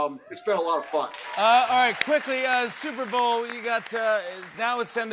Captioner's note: cheers and applause